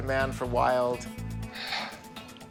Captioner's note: sighs